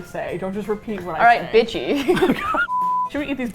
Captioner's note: both laugh